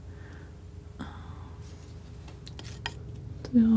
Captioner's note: scratching